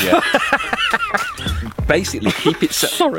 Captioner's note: laughs